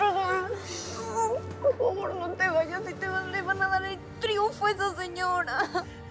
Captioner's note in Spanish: Sollozos